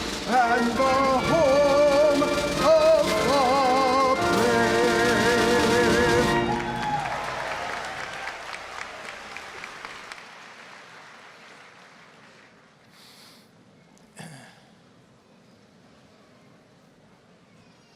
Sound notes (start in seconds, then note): 6.1 applause, cheering